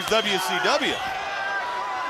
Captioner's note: crowd chatter